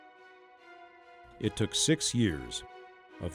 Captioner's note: voiceover